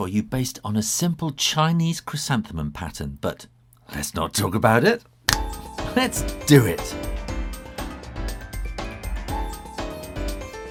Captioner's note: snap